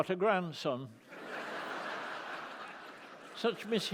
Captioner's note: laughter